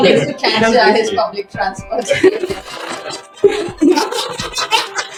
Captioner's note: laughter